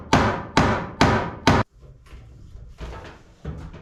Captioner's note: banging